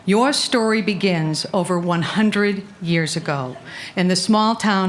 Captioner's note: none